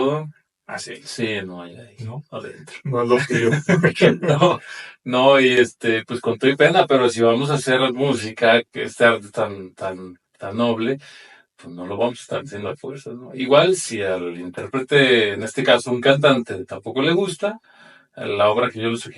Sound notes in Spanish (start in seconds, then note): 2.5 carraspeo; 3.1 risas